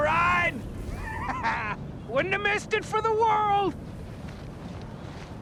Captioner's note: laughs